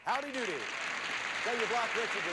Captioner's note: audience applauding